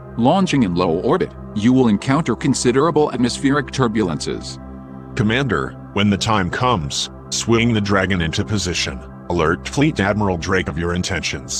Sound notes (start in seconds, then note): none